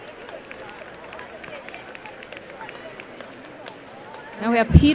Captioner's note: applause